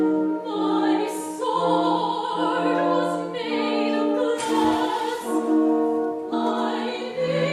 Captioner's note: the sword splashes into the well